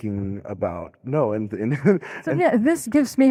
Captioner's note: laughing